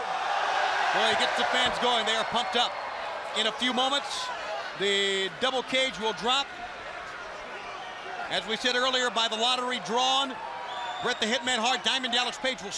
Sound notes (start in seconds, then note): 0.0 crowd chatter; 4.4 crowd cheering